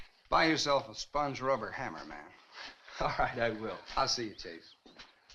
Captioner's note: none